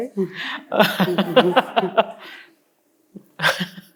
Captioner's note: laughs